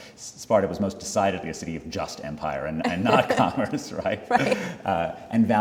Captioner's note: laugh